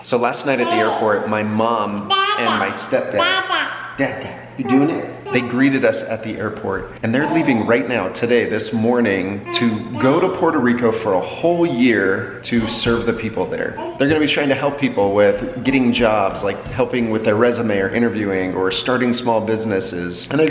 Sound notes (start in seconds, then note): 2.0 babbles